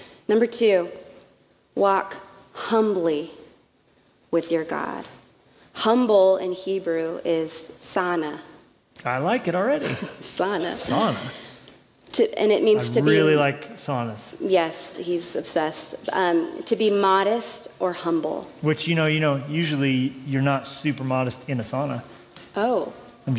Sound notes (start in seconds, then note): 7.3 non-english speech; 10.2 non-english speech; 13.7 non-english speech